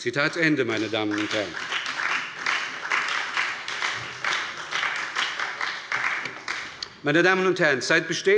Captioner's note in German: Beifall bei der SPD und FDP